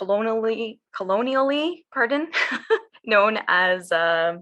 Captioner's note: laughs